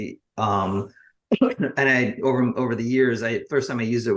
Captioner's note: coughs